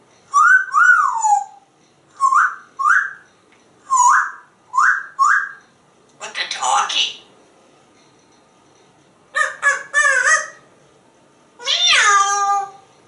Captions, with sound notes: [Sexy whistle] [Whistles] What the doggy? Ar, ar, aruf! Mee-oww!